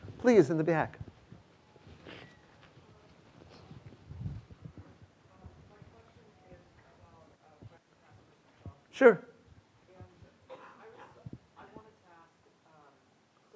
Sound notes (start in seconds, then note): 3.1 student speaking faintly; 9.8 student speaking faintly